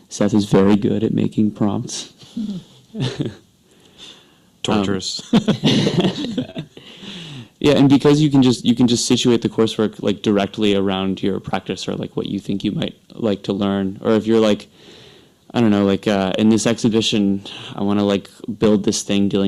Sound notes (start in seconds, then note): 2.3 laughs; 5.2 laughs